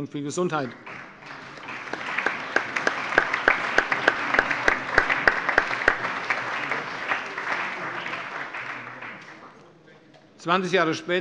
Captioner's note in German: Allgemeiner Beifall